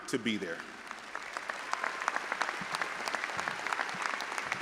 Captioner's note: all applauding